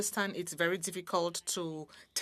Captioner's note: speaking French